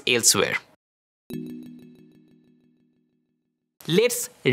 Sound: text chiming

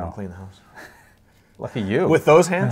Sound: laughs

